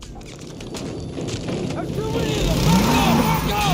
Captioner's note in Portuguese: som de tiros e explosões